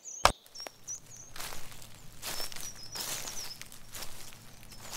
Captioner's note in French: Bruits de pas dans des feuilles et chants d'oiseaux